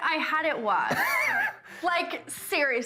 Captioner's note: Nick laughs